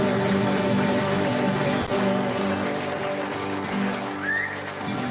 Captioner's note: audience applauds